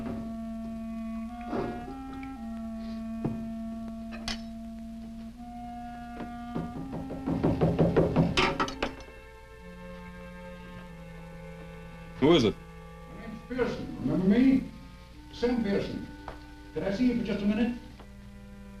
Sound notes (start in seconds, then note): 6.2 door knocking